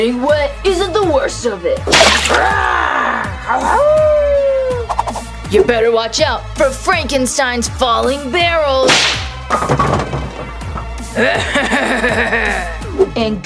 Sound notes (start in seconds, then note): 2.4 roaring and howling; 9.4 rolling and thudding; 11.1 Frankenstein laughing